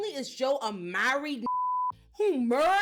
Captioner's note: beep